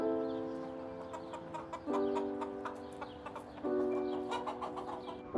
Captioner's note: chickens clucking